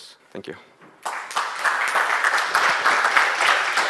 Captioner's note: clapping